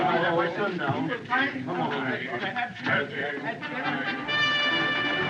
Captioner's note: all Chattering; singing